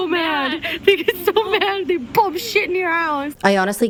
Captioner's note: hoots